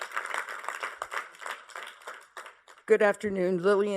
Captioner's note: applause